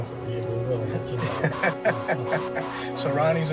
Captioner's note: laughter